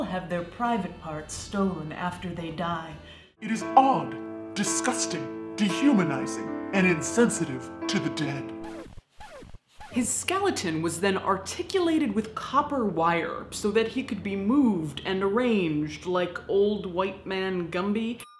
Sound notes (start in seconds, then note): 8.6 record scratching